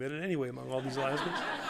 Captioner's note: laughter